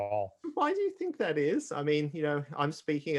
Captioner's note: chuckles